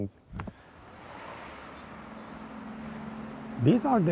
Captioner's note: cars zooming down a highway